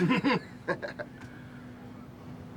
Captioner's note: Leek and Cortez laugh